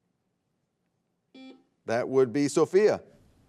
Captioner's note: buzzer beeping